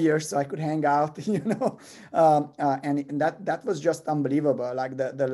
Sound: laugh

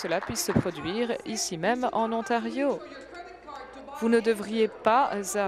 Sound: applause

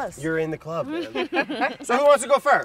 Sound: everyone laughs

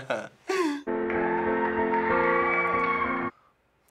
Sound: chuckles; people cheer

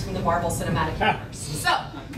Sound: laughing

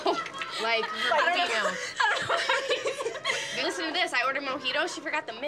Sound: overlapping laughter

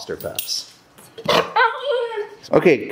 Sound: dog barks

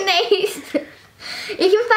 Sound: laughter

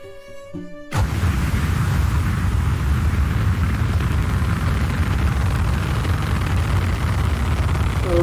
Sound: rocketship engine rumbles loudly; engine continues to rumble

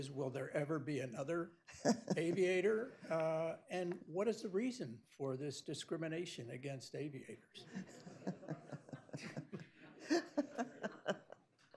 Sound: laughter

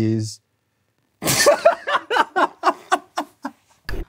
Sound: cracks up

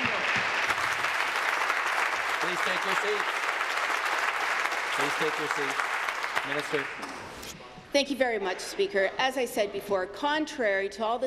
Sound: applause

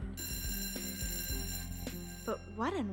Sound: bell ringing

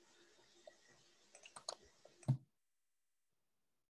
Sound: mouse clicks

